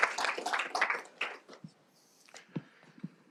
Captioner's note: applause